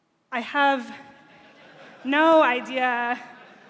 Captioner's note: laughter